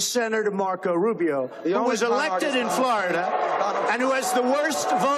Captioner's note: crowd booing